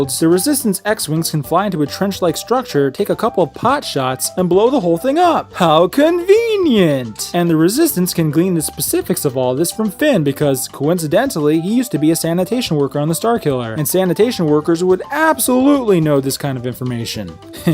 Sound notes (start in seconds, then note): none